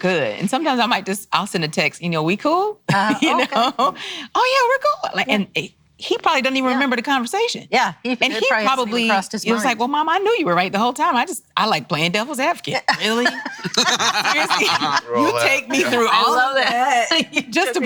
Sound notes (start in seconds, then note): 12.8 laugh